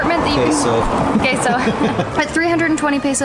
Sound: laughs

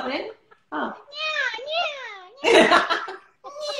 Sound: nasal tones; laughter and nasal tones

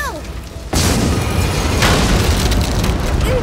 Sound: thudding

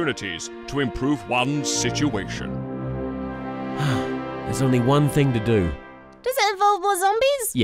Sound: sigh

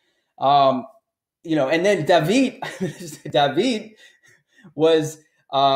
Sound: chuckles

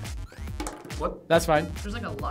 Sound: fries hitting table

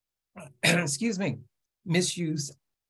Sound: clears throat

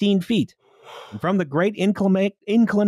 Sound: yawns

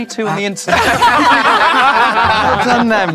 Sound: group laughs

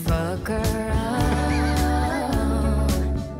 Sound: laughs

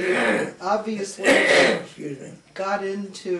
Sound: clears throat

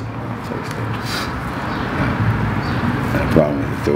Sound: chuckling

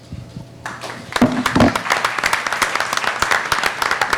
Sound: clapping

